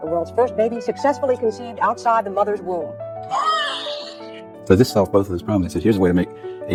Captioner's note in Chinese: 哭泣